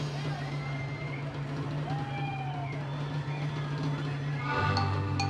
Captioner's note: audience chattering; percussive music continues